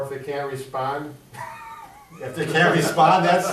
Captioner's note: laughs